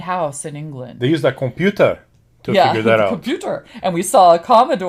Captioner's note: silly accent